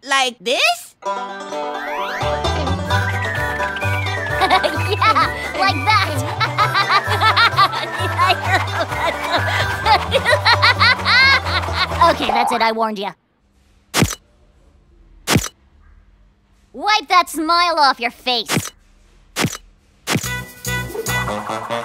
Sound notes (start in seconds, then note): 3.4 laughs; 5.3 laughing; 13.9 camera flashes